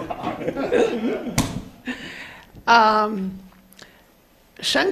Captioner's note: laughing